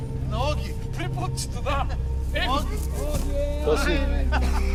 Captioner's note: drivers talking in Bulgarian